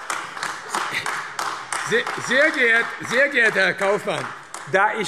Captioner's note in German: Beifall AfD